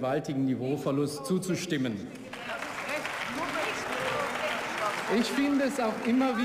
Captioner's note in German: Beifall und Buh-Rufe